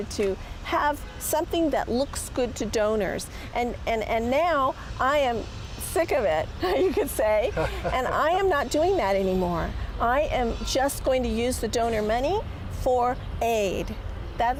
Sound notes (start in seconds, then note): 7.4 laughing